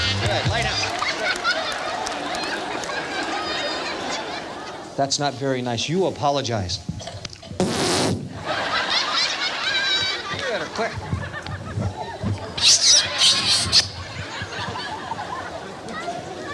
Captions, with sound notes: Good, lay down. [audience laughing] That's not very night you apologize. [blows air into the microphone] [audience laughing] [kissing sound effect] [audience laughing]